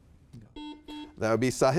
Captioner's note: buzzer beeping